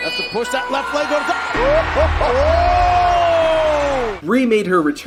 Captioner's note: crowd cheers